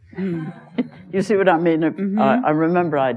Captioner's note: laughter